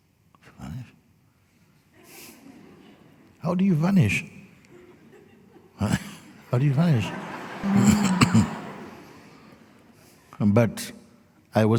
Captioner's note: laughter